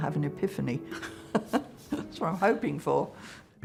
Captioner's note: laughing